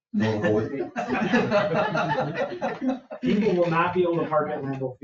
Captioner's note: people chuckle